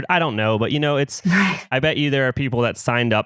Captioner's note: laughs